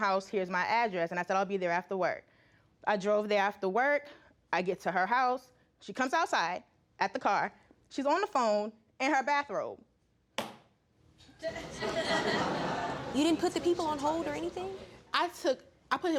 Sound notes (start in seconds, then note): 11.4 audience chuckling